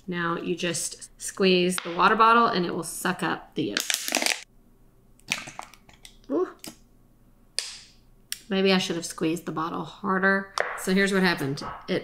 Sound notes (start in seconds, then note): 3.8 bottle cracking; 5.5 eggs gurgling